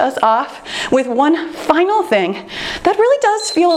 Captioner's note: timer beeps